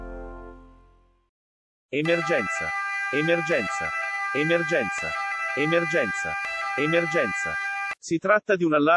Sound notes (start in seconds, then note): 5.4 siren